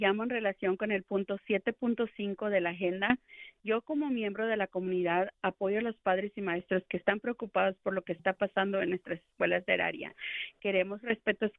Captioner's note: speaking spanish